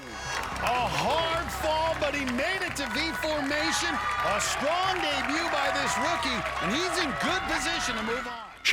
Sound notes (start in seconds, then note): 1.4 applause